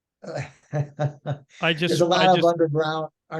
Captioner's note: laughing